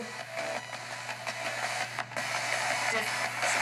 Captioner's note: static from spirit box